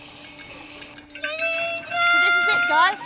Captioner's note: cries in Polish